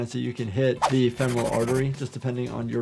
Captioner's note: pencil scratches